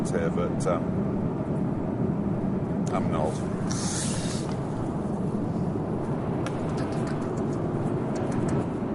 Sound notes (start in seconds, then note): 3.1 plane engine roars